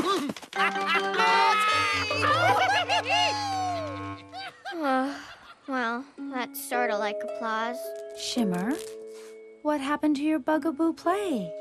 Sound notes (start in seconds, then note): 0.0 laugh; 4.4 sigh